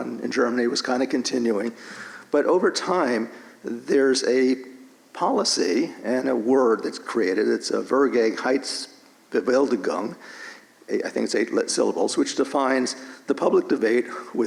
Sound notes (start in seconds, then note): 8.2 German language